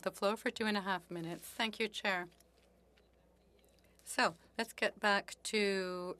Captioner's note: speaking French